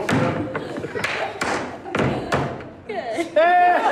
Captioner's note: attendees laughing; feet tapping